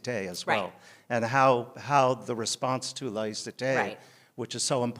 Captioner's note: french; french